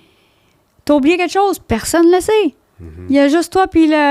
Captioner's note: in french